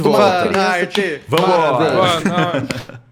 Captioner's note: laughter